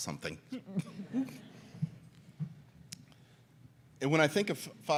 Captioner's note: audience laughs